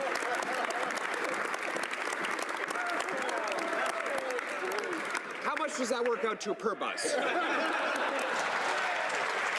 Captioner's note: some Applause